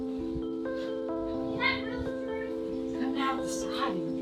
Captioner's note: people mumbling